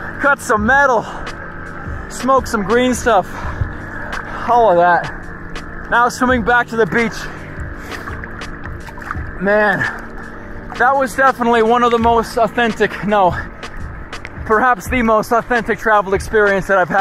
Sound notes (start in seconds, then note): 8.8 water splashing